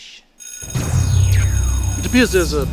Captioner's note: alarm rings